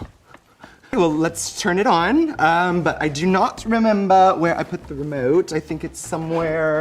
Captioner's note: puts on a British accent